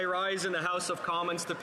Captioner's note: some Applause